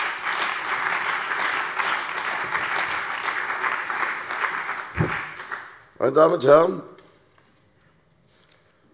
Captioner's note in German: Beifall bei der CDU und dem BÜNDNIS 90/DIE GRÜNEN